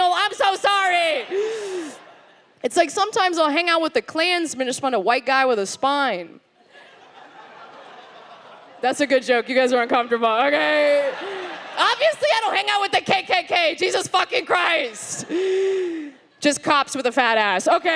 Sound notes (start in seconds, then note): 6.6 audience quietly laughs